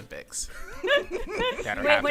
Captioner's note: laughter